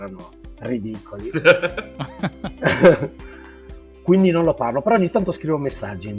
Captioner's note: laughs